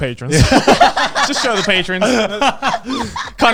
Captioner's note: everyone laughing